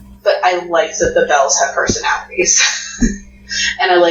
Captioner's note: laughs